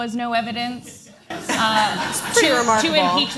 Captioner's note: laughter